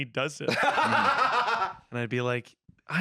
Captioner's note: laughs